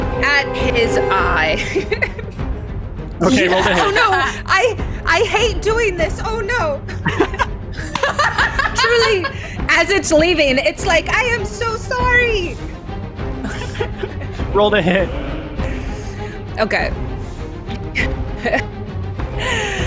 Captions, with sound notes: At his eye. - Okay, roll to hit. - Oh no, I, I hate doing this. Oh no, truly. (laughing) As it's leaving, it's like, I am so sorry. - Roll to hit. - Okay.